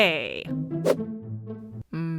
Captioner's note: whoosh